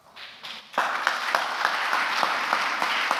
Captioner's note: applause